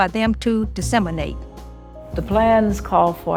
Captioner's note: soundbite of archived recording